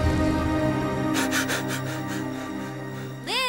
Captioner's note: gasping